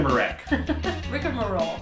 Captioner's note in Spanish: se ríe